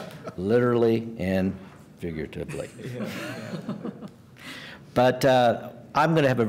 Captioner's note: laughter